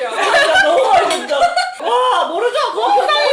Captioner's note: laughing